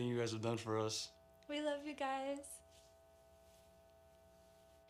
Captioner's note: speaking in native language